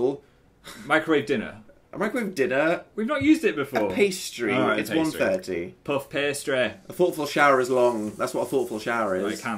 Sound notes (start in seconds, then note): 6.0 in a Northern accent